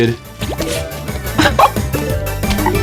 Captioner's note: laughs to myself